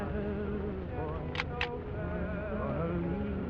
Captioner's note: gun cocks